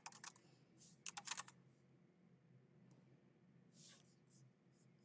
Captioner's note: keyboard clacking